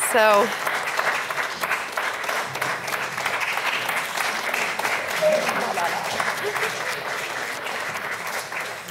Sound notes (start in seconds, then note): 2.5 audience continues clapping